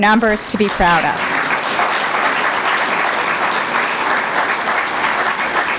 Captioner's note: applause